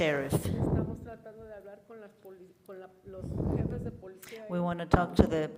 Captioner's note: woman speaks in foreign language